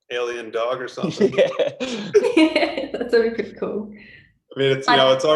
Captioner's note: chuckles